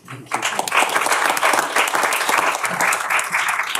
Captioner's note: applause